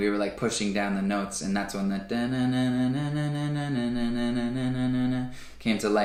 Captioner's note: vocalizes